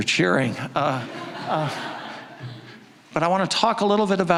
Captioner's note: audience laughing